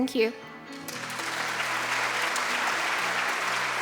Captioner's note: audience applauding